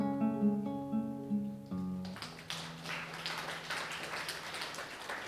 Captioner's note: applause